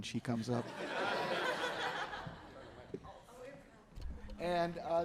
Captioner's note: audience laughing